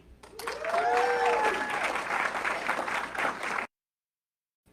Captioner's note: audience clapping